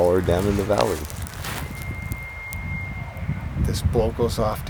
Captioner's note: bull elk bugle